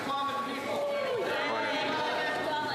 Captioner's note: applause